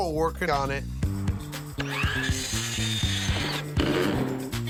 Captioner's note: saw whirring